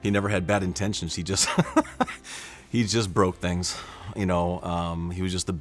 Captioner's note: laughs